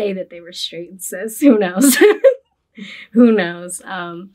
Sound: laughs

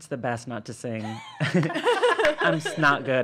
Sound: laughing

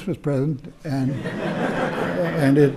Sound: laughter

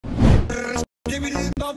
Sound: whoosh

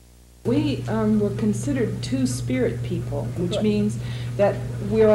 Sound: voiceover

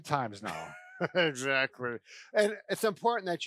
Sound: laughs

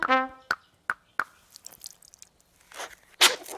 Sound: water trickling; sneezing

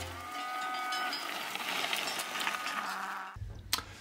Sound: cow bell clanging; cows mooing

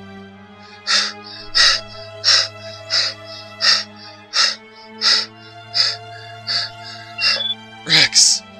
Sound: panting

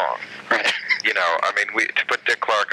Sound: laughing

